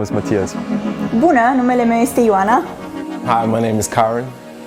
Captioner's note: speaking in foreign language